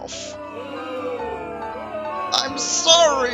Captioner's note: booing at my cowardice and failure